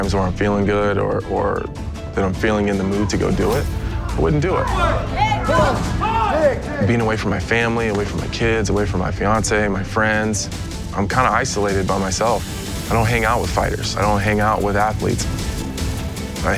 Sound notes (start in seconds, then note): 5.3 yelling